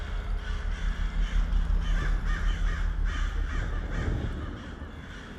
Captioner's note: crows chirping; thunder rumbles